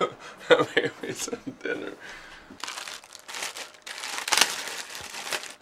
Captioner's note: laughs